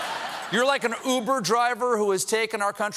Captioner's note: laughter